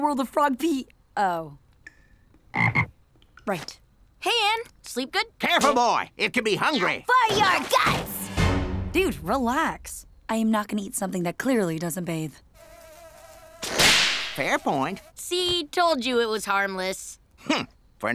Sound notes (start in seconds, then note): 2.4 croaks; 12.4 flies buzzing